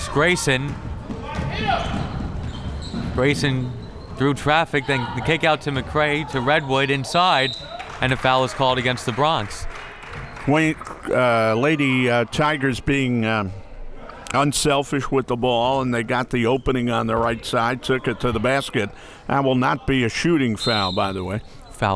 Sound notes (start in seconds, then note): 1.3 crowd members shouting; 7.4 whistle tweeting